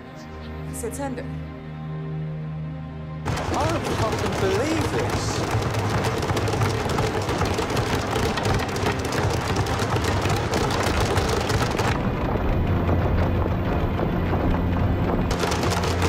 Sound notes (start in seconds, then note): 5.0 banging on desks; 11.7 grim music